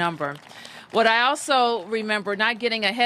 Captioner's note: applause